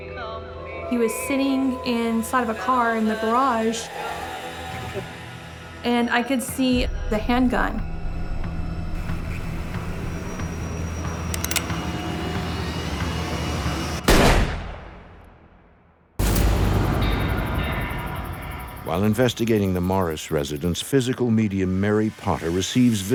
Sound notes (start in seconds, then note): 7.1 intense music; 14.0 gun fires; 16.2 eerie music